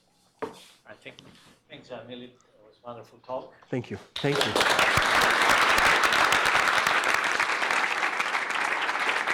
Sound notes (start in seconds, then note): 4.2 audience applauds